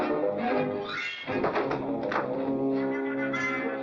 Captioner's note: umbrella clatters